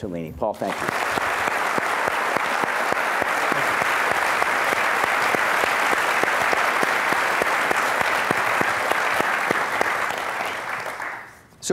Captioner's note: applause